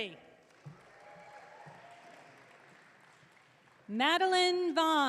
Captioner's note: audience cheering